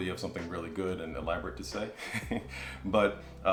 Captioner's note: chuckles